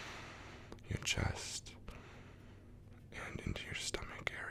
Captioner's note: inhale; inhale